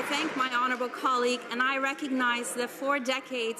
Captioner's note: some Applause